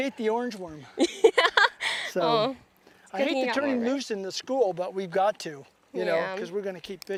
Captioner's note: laughter